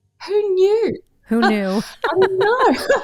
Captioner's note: laughs